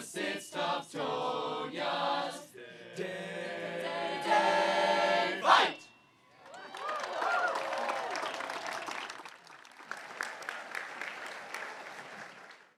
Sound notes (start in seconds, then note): 6.4 audience cheering; 6.4 audience applauding